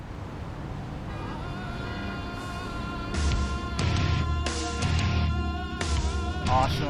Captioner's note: car horn beeps; rock music